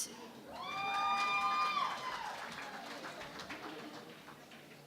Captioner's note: cheering and Applause